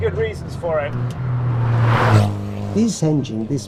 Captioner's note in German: Motorgeräusche